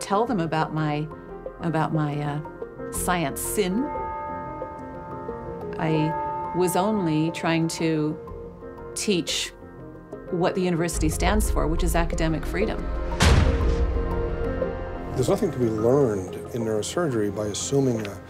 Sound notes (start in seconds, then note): 3.6 bell tolling